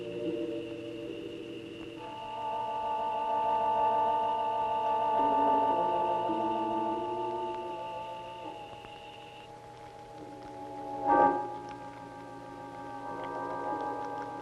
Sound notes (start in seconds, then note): 0.2 stirring music continues; 10.2 wood burning